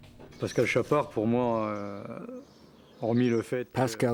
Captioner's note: speaks in foreign language